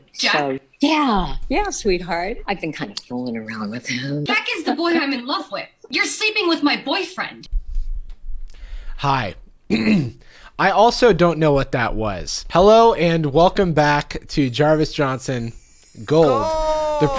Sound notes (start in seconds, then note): 9.7 clears throat